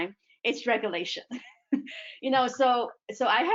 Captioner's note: chuckles